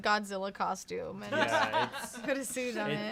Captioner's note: laughs